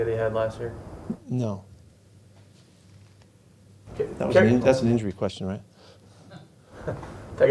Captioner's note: laughter